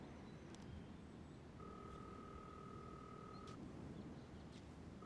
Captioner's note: line ringing